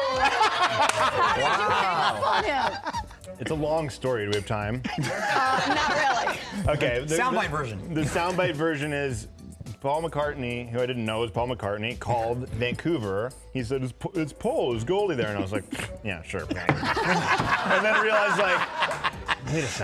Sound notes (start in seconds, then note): 1.7 crowd boos; 18.6 laughter